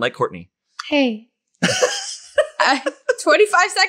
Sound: laughs

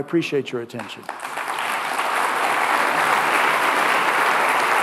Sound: audience applauding

